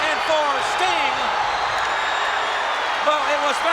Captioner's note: crowd cheer